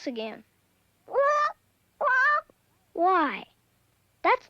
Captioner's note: bird squawks